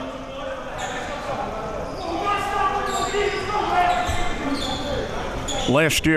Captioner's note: audience chattering and yelling